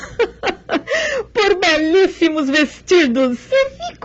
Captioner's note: laughter